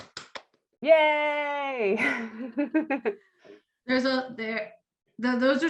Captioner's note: laughs